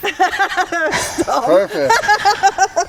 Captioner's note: people laughing